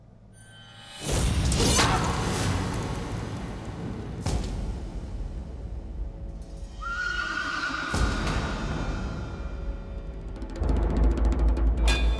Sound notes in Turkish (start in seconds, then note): 6.8 At kişniyor; 9.1 Gerilim müziği